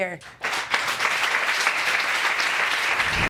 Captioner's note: audience clapping